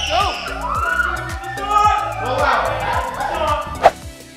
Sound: children screaming; upbeat guitar music

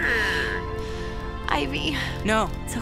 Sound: sighs

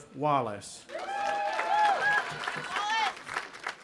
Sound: audience applauding and cheering

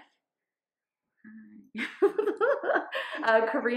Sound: laughs

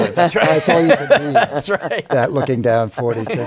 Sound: laughing

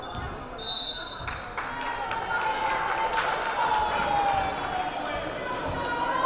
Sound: whistle blaring; crowd cheering

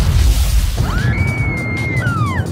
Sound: screaming

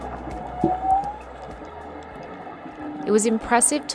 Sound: whale Sounds

